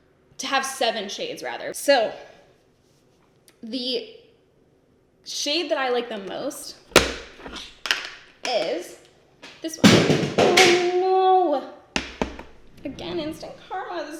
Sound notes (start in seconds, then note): 9.8 banging